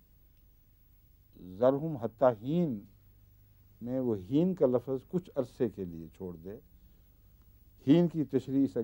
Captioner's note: Arabic